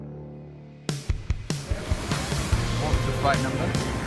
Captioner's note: distant aeroplane engine